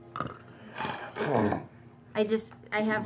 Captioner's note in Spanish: gruñe